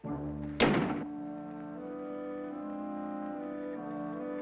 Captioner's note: door thuds; somber intense music